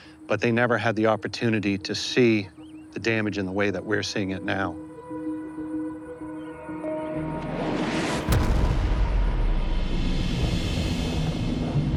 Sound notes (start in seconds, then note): 5.0 tense music; 7.4 round whooshes